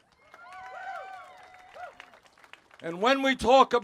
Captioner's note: cheers